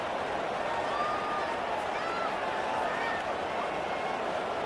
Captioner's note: crowd cheering